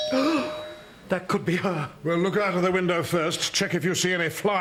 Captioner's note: doorbell